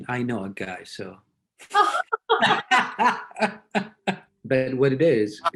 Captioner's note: laughs